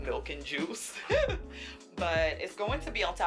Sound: laughs

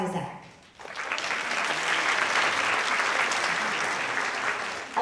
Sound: audience clapping

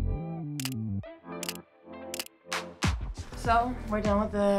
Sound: camera clicking

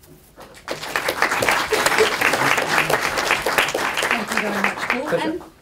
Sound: applause

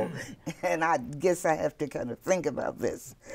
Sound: laughing

